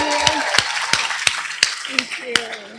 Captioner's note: applause